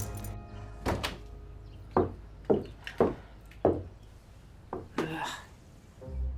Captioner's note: keys jingle; door opens, footsteps